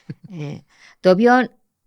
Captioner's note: he laughs